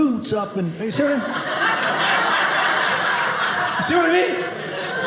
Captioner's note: audience laughing